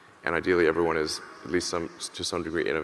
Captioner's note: none